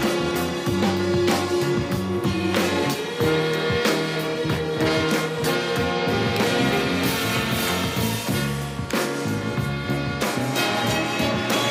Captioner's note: cheering